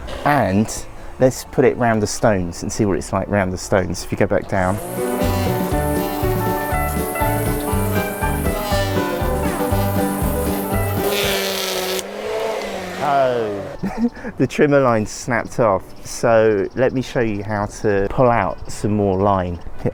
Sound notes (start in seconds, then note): 8.1 trimmer noise - line breaks